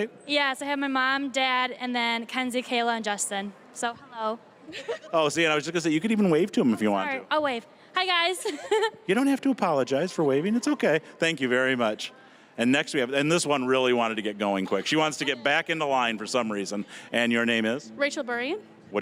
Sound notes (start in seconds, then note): 4.7 laughing; 8.4 chuckling